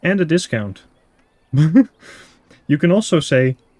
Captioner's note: laugh